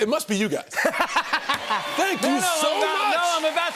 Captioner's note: cheers and applause